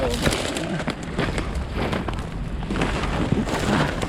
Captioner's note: sticks breaking